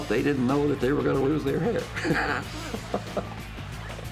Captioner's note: laughs